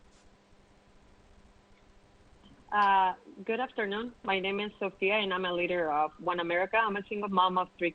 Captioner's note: speaking spanish